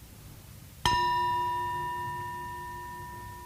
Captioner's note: ringing